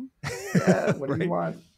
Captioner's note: laughs